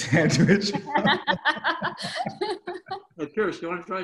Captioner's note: laughing